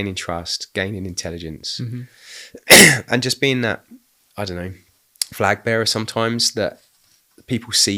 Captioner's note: coughing